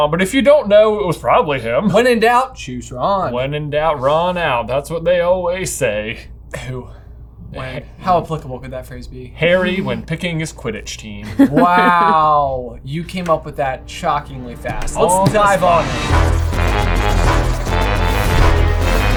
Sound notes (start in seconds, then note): 11.2 laughing; 16.5 upbeat music